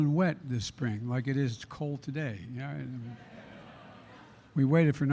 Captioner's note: laughter